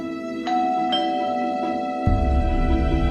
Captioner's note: doorbell ringing; light dramatic music